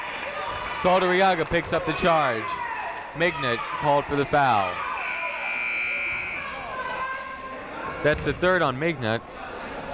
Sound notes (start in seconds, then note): 5.0 buzzer ringing